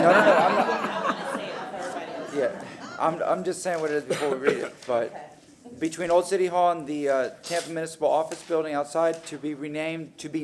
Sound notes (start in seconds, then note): 3.0 laughter